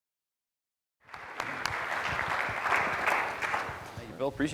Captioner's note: audience clapping